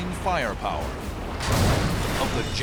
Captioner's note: explosion